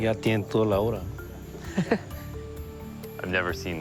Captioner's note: chuckles